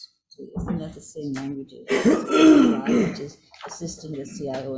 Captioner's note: coughs